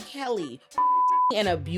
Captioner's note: beep